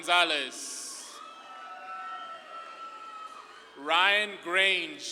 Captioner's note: audience claps and cheers